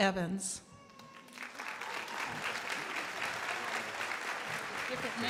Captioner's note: crowd applauding